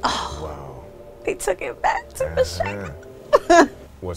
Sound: laughs

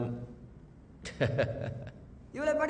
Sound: self conscious laughter

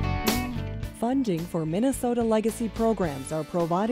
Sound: voiceover

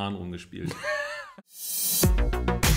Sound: laughs

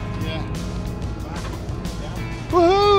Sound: men murmuring

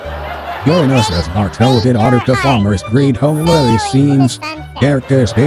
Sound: voiceover

